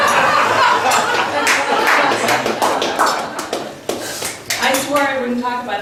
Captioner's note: laughs; guests applaud